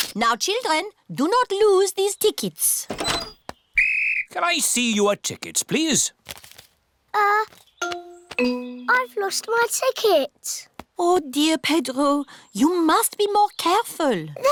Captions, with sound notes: Now, children, do not lose these tickets. -(BLOWS WHISTLE) -Can I see your tickets, please? Uh... I've lost my ticket. Oh, dear, Pedro, you must be more careful.